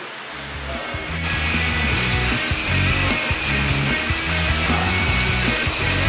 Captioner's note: engine bath time